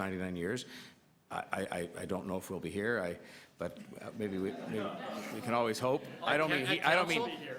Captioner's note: laughter